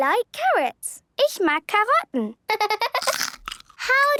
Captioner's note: laughter